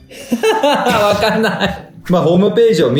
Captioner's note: laughs